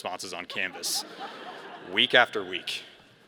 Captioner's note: all laughing